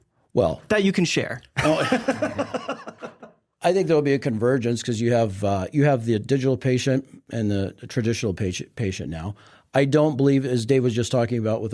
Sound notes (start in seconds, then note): 1.6 laughs